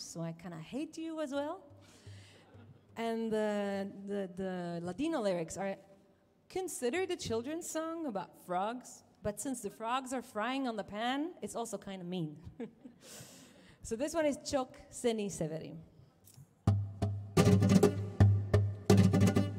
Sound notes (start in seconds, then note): 2.6 audience laughing; 12.5 chuckles; 16.6 instrumental music